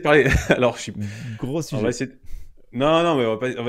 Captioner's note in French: Rire